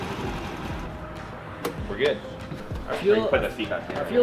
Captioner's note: engine cuts